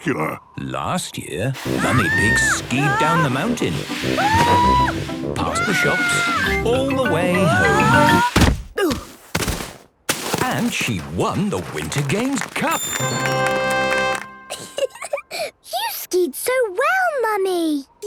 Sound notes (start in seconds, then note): 5.4 screaming; 8.1 exclaiming and grunting; 12.8 triumphant music; 14.5 giggling